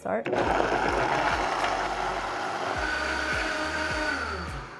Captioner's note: Vitamix whirring